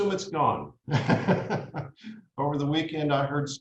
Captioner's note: laughs